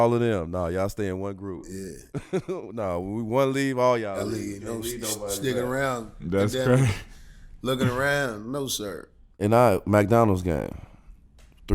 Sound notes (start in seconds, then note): 2.1 giggles